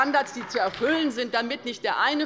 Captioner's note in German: Beifall bei der LINKEN